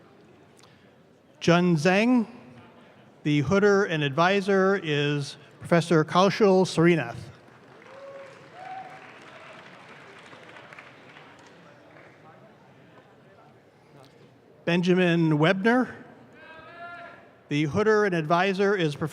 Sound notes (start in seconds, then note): 7.3 audience claps